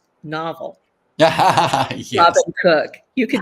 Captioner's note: laughs